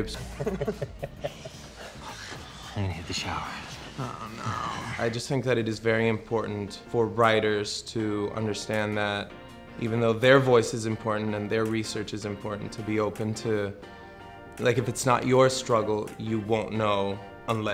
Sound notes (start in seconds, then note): 0.0 giggling; 5.2 voiceover